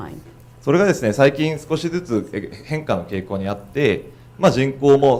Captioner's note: speaking foreign language